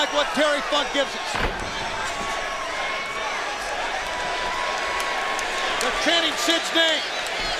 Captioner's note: crowd cheering